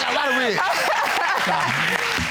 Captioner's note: laughing